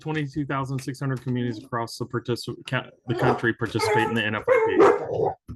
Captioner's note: dog barking